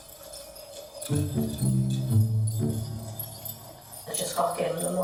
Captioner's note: tinkling noise